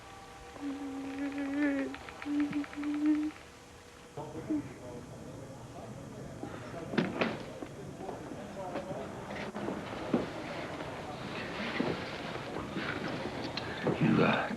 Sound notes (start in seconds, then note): 2.6 whimpering